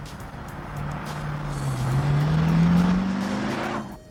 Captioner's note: engine rumbling